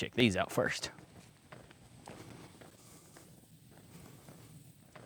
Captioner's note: crunching